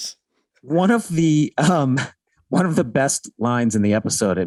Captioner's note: Glenn laughing amusingly